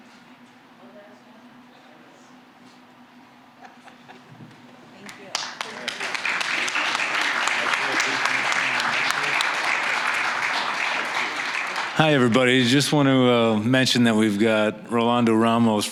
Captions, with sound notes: (applause) >> Hi, everybody. Just want to mention that we've got Rolando Ramos